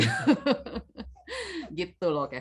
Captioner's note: laughs